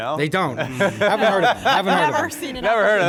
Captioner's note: laughing